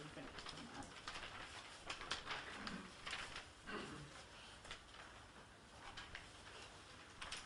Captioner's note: adjusting papers